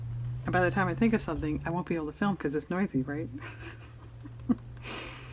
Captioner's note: laughs